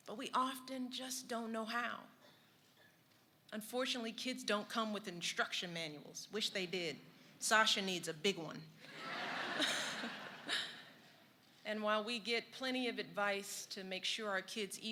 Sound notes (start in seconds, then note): 8.9 laughter